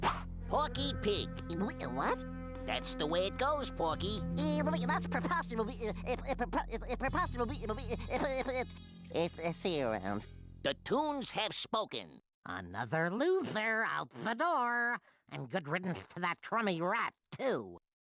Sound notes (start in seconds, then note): 1.5 stutters; 4.5 stuttering